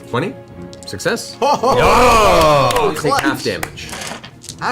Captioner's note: all cheer